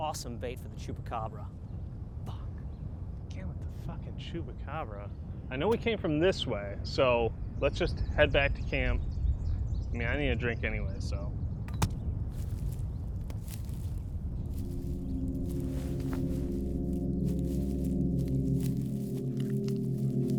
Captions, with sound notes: Would have been awesome bait for the chupacabra. Fuck. - Again with the fucking Chupacabra? I know we came from this way, so let's just head back to camp. I mean, I need a drink anyway, so. (thud) (slow chords)